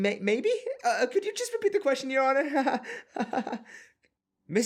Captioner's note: nervous laughter